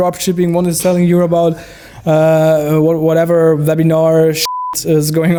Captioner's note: beep